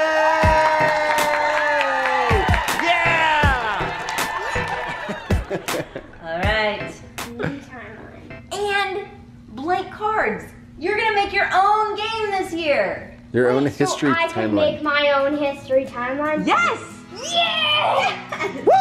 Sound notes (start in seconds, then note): 2.2 cheering